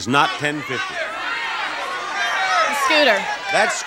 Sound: audience shouts

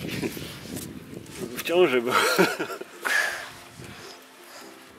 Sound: laughs

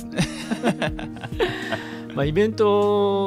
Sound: laugh

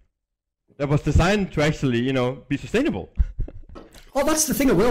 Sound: laughs

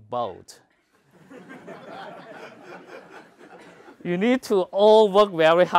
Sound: laugh

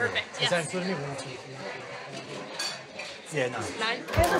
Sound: none

